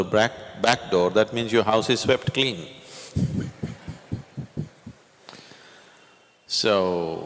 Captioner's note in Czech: smích